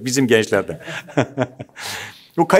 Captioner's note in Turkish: Gülüyorlar